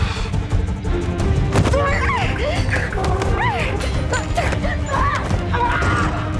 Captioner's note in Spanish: Gritos